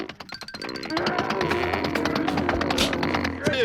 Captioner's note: muffled yelling